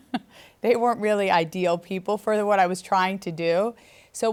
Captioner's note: laughs